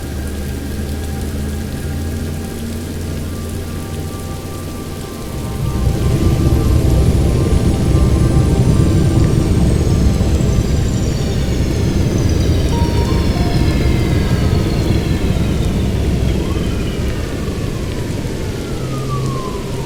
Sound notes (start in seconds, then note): 4.6 a high-pitched whirring and a deep humming; 12.5 atmospheric music; 16.6 distant sirens